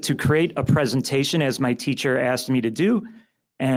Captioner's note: none